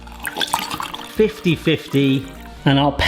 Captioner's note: water trickles; juice trickles